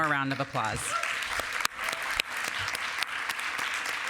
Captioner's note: applause